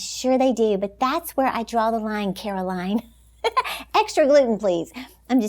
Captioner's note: giggles